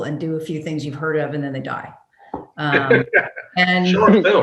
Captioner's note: laughs